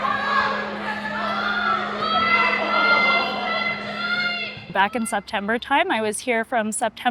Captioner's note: children playing